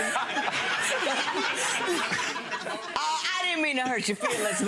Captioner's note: audience laughs